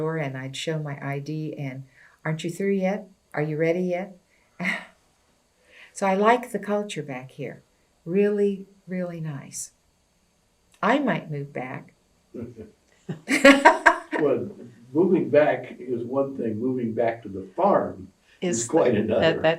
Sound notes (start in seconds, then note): 13.1 laughter